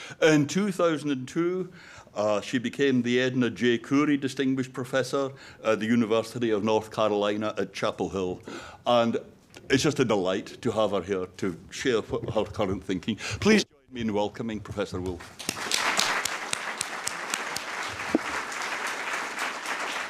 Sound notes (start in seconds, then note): 15.0 audience clapping